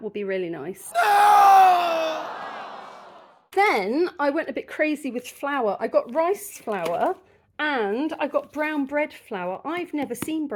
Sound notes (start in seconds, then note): 0.9 man screaming 'noooo'; 0.9 crowd booing